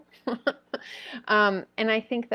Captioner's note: laughing